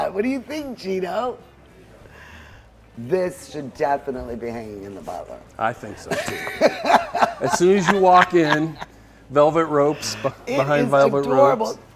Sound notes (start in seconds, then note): 6.0 laughs